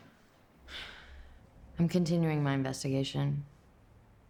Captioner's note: sighs